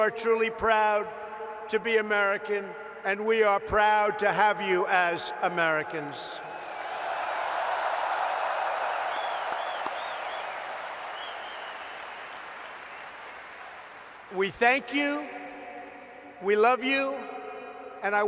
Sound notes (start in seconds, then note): 6.7 applause